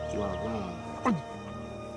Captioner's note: grunts